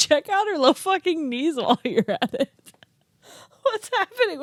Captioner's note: laughs